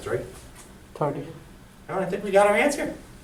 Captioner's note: voiceover